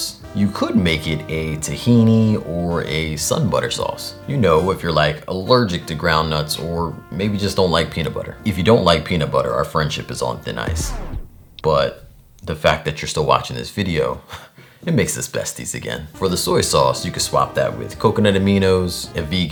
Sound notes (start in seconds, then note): none